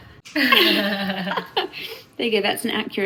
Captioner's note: everyone laughs